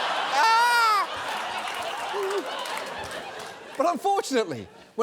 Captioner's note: audience laughing